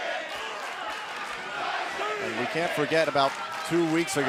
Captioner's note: fans chanting